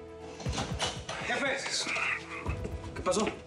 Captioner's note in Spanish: sonido al abrir la puerta